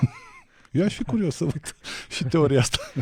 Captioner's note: laughter